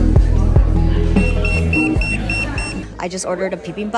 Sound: device beeping

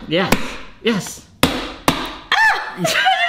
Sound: hammer banging

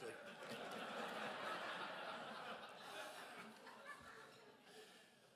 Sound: crowd laughs

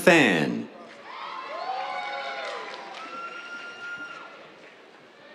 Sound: cheers, applause

